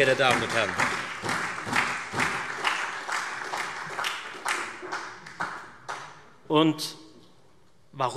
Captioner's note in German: Beifall Freie Demokraten und SPD